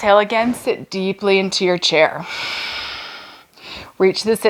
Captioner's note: exhales